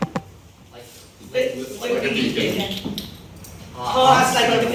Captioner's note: in Unison